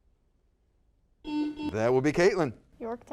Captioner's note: buzzer sounds